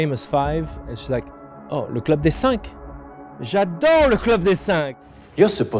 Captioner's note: in french